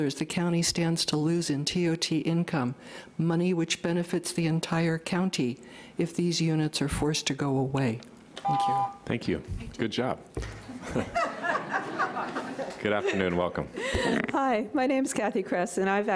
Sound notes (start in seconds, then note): 8.4 beep; 10.6 laughter